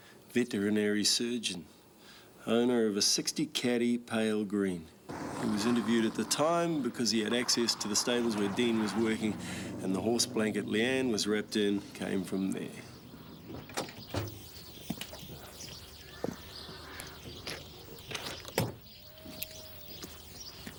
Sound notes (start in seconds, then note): 16.5 birds chirping